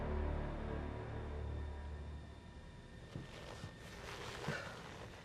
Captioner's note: airplane humming